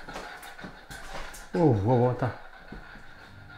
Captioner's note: hears footsteps behind him